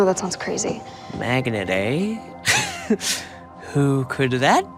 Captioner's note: laughing